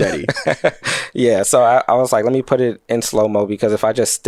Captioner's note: laughs